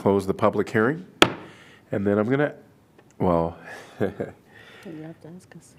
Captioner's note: laughter